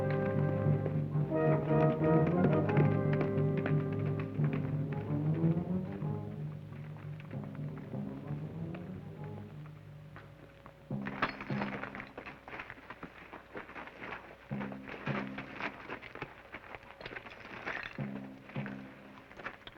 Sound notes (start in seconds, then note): 2.7 hooves clop; 11.1 suspenseful percussive music